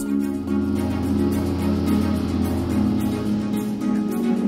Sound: engine rumbles

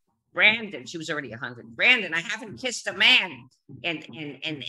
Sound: imitating mother

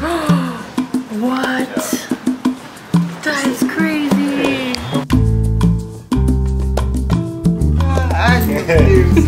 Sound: gasp

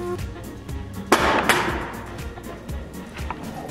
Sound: bang

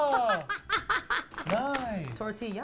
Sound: laughs

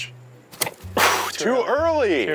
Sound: shears slicing

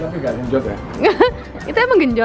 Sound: chuckled

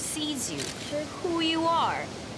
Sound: camera shutter clicks

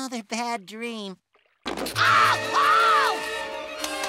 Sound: screaming

